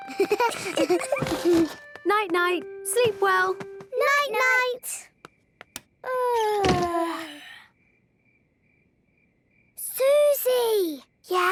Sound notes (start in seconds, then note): 5.8 light clicks; 6.8 both yawning